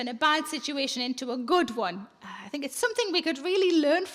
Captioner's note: none